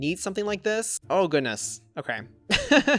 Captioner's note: laughs